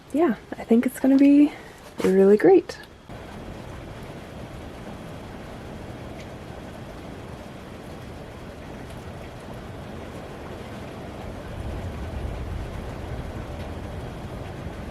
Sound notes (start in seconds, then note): 3.0 steady rain, with occasional rumbles of thunder